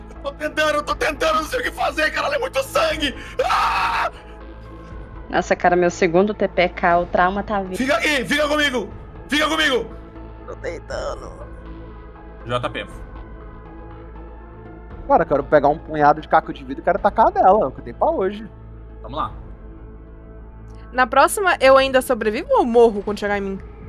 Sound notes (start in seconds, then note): 10.7 weak voice